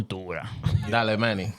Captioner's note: speaking Foreign Language